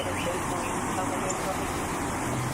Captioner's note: radio chatter